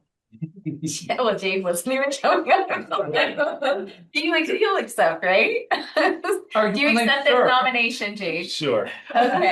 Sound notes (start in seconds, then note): 5.5 laughs